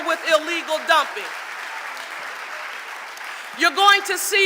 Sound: audience applauding

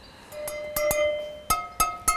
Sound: clattering chimes

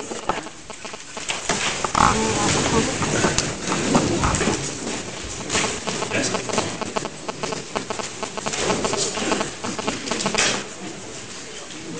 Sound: interference from nearby mobile phone

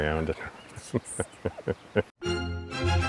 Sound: laughing

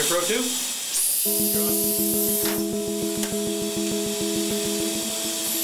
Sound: hissing Sound, Music

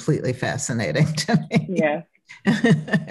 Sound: laughs

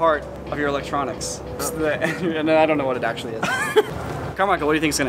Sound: laughter

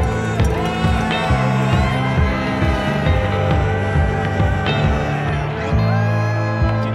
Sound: cheers

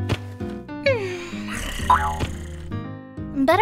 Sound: purrrr

